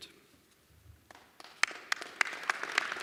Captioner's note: applause